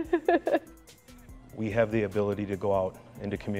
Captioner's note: laughing